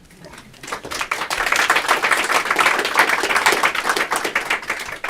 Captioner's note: applause